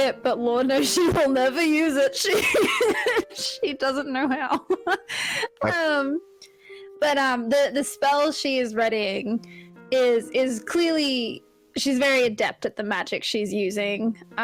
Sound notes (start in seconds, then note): 2.3 laughs; 4.4 giggles